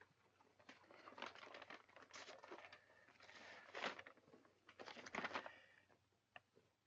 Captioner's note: paper rustling